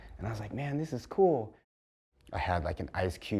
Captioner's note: none